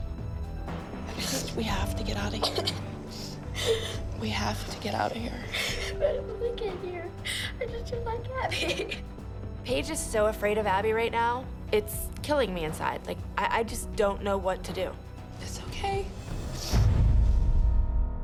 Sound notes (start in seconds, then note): 5.2 sobbing